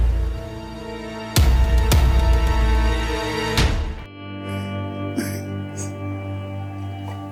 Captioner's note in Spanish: Sollozos